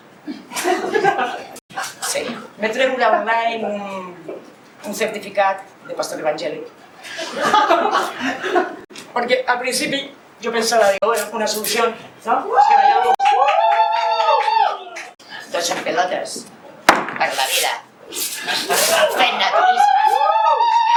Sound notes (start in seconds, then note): 0.2 confused laughs; 7.1 laughs; 12.4 excited cheers from the audience; 19.0 excited cheers from the audience